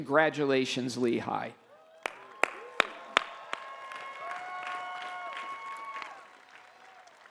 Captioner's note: applause